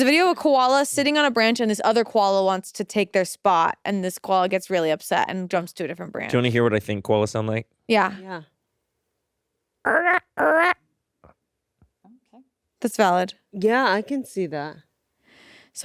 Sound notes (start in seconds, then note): 9.7 imitates koala grunting